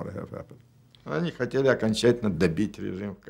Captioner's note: speaking Russian